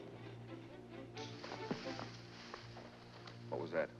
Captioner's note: bushes rustle